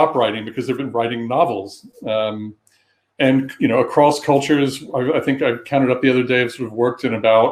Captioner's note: erm